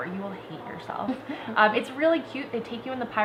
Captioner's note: laughter